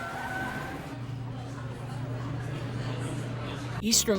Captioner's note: wired humming